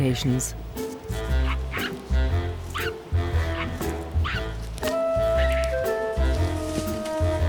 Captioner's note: bright music; monkey chattering